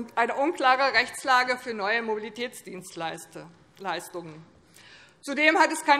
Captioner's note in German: none